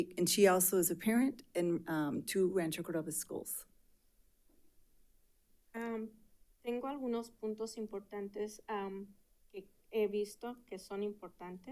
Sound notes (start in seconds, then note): 6.9 speaking in Spanish